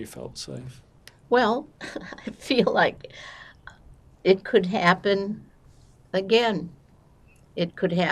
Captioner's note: laughing